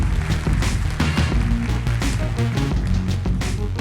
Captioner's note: applause